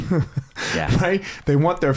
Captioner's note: laughs